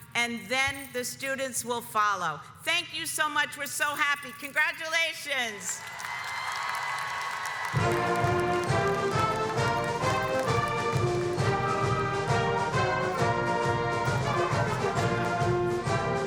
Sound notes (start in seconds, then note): 5.8 audience cheers; 13.6 upbeat music